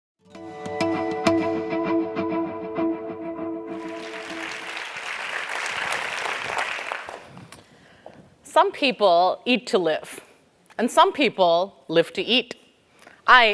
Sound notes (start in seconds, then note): 3.7 applause